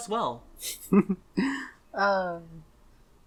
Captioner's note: giggles